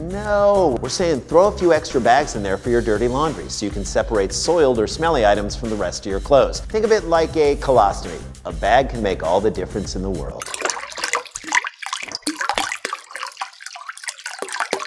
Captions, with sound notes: No. We're saying throw a few extra bags in there for your dirty laundry so you can separate soiled or smelly items from the rest of your clothes. Think of it like a colostomy. A bag can make all the difference in the world. [SLOSHING LIQUID]